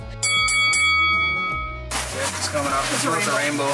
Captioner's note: bell dings